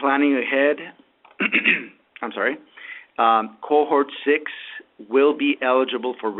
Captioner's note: clears throat